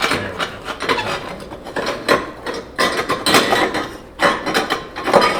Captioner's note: metal clanking loudly